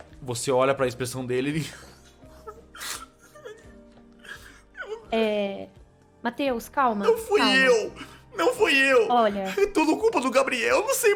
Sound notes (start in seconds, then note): 1.6 sobbing